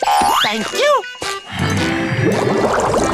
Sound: groaning

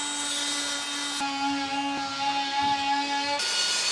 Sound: drilling; sawing

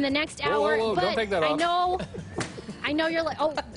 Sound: laughter

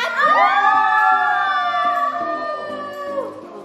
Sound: all cheering

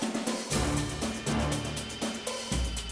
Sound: none

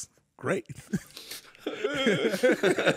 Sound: fake cries quietly; laughing quickly

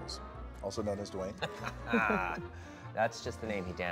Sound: Ryan and Gal laughing

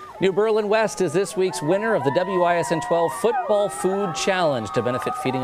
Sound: cheering

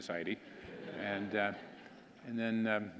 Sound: audience laughing

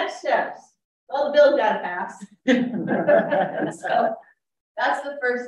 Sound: laughs

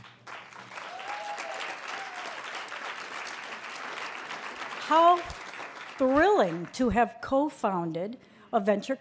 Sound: applause

